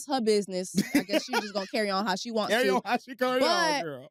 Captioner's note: laughs